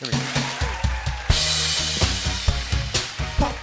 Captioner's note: cheers and applause